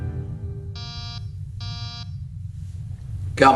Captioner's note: door buzzer